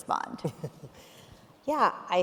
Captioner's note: chuckling